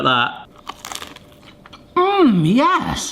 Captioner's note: chicken crunching